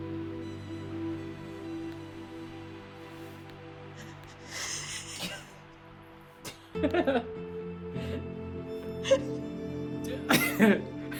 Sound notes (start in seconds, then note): 4.0 laughs quietly; 6.4 giggles